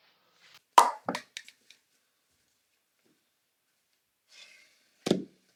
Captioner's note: plastic thuds